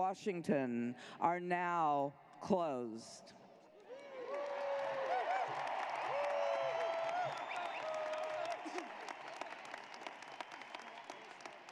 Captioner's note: cheers and applause